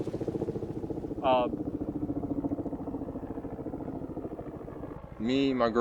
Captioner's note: helicopter whirring